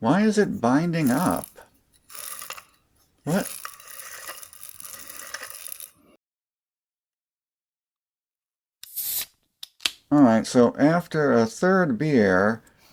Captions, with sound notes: Why is it binding up? [grinding sound] What? [grinding sound] [beer opening sound] Allright, so after a third beer,